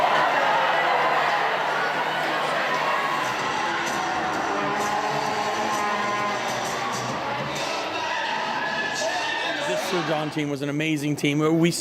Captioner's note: cheering